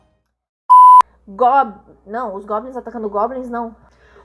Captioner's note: shrill beep